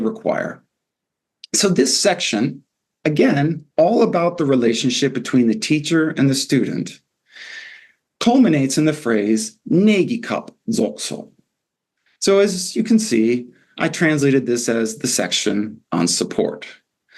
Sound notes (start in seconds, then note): 9.6 non-english